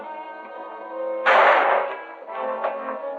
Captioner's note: gunshot